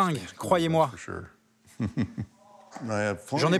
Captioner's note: laughs